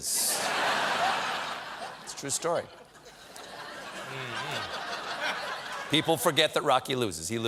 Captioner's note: laughter